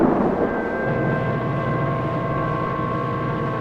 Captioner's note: cannon blasting